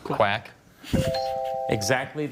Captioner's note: bell chimes